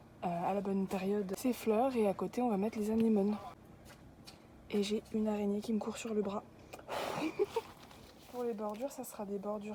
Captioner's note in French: souffle dessus-rire